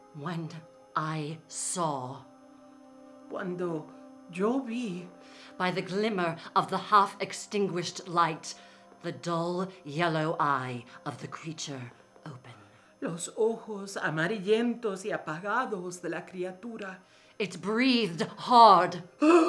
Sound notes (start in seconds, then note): 0.0 speaking in foreign language; 3.4 speaking in foreign language; 13.1 speaking in foreign language